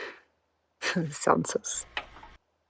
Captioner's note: laughs